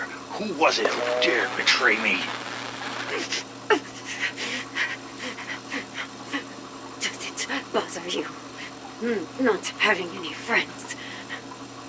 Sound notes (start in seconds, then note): 2.7 heavily breathes